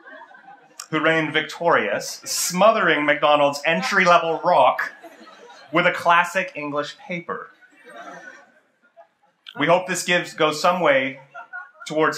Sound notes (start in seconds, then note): 7.2 laughter